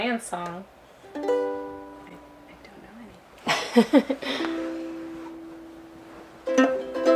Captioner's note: ukelele strumming; laughs; ukelele strumming